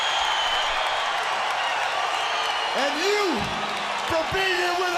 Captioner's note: crowd cheering